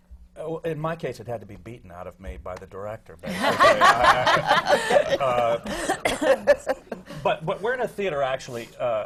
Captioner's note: laughter